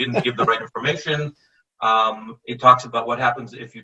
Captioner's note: laughing